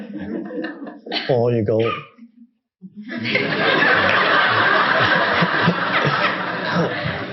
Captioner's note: audience laughing